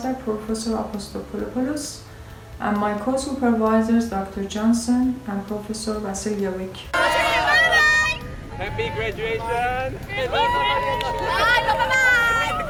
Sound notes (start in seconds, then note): 6.9 crowd yells; 9.8 crowd cheers